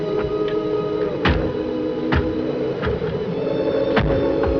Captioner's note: shutter bangs loudly